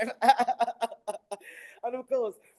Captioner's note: laughing